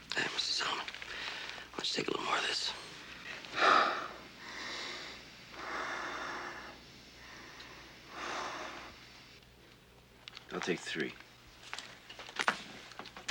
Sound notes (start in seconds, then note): 3.9 breathing